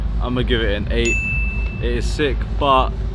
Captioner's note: graphic dings